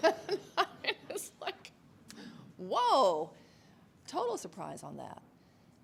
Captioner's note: laughs